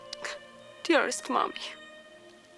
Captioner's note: crying